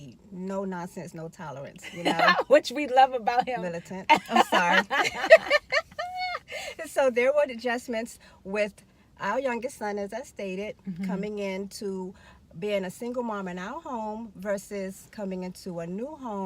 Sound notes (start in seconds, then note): 4.0 laughing